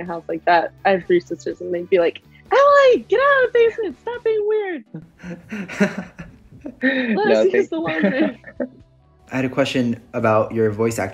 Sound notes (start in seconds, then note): 5.0 laughs